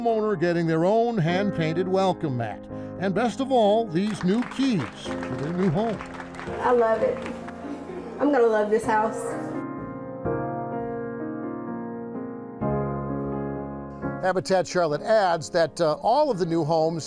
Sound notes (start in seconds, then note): 6.6 crowd clapping